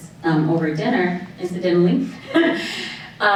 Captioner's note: chuckles